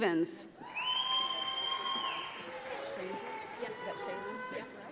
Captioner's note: audience applauds